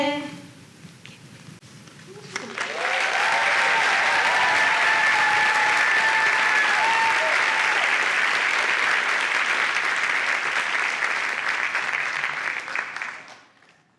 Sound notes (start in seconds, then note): 2.2 applause and cheers